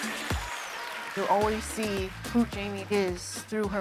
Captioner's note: applauding